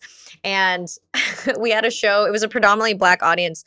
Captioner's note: laughs